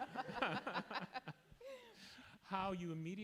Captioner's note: laugh